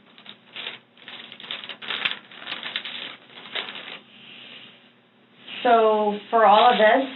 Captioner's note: papers rustling